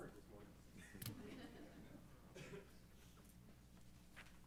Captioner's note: laughing